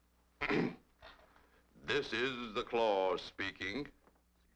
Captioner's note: clears throat